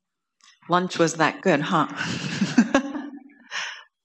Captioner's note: laughter